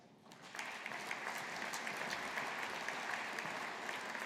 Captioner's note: audience applauding